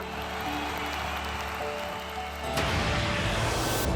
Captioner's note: cheering